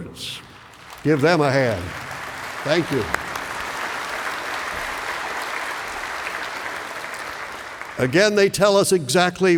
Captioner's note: applause